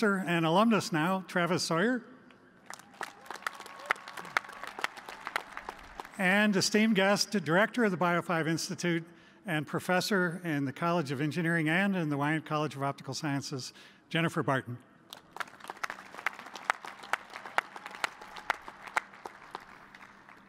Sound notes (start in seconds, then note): 6.2 applause; 15.1 applause